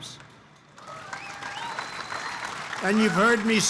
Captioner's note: applause